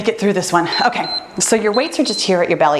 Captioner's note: timer beeps